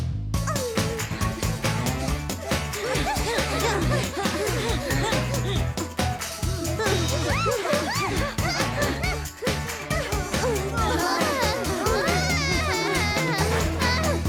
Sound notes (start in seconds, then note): 7.0 squeals